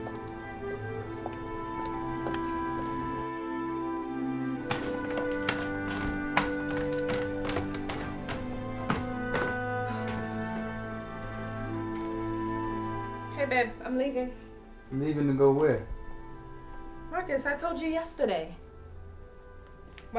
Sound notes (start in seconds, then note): 0.0 dramatic music; 1.1 heels clicking; 4.6 stairs clicking; 7.7 feet thudding; 10.1 Jeanette sighs